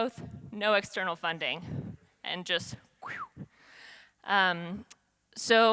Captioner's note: exhales